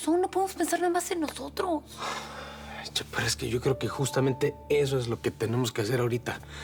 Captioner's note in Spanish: él exhala